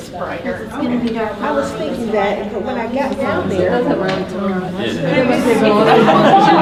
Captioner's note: participants talking at once